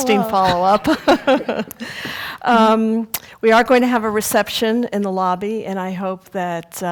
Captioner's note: laugh